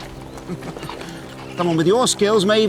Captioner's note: chuckles